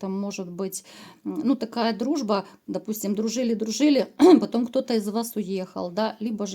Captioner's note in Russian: откашливается